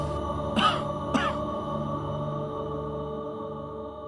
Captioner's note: coughing